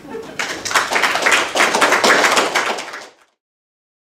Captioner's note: applause